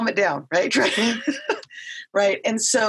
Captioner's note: laughing